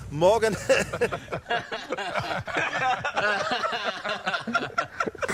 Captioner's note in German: Gelächter